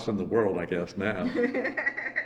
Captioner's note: laughs